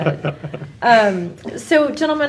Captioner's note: panel laughs